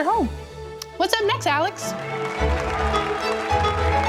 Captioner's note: audience cheers; inspiring music